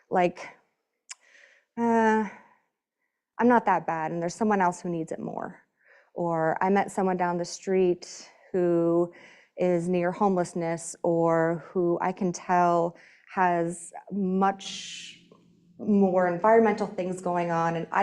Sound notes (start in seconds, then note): none